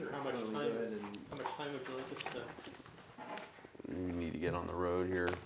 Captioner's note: murmurs